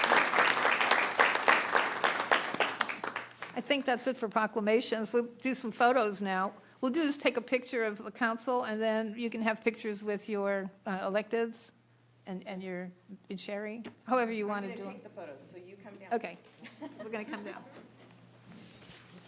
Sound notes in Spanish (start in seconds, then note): 4.4 Aplausos